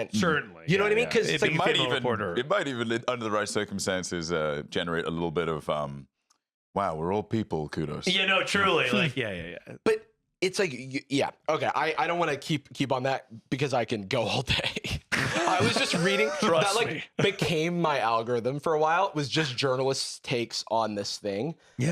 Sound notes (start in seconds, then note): 15.0 laughs